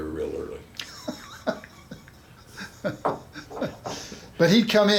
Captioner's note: chuckles